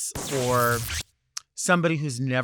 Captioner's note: lightning buzzes